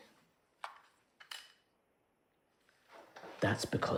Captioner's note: gun clicks